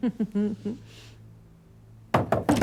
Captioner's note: laughs